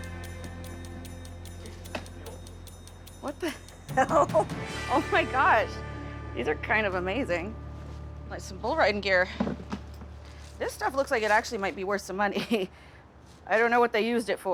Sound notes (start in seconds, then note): 3.9 laughs